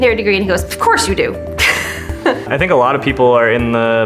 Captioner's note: laughs